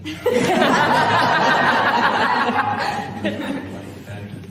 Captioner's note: laughter